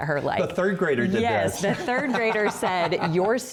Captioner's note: laughter